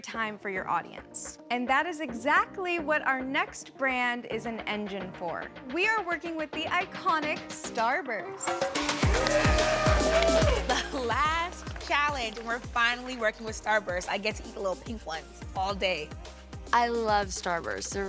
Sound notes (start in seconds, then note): 9.0 cheering